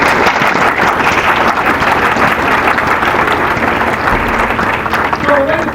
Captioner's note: applause